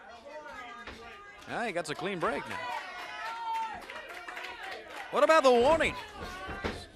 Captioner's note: crowd chatter